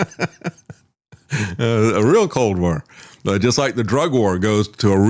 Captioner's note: laughing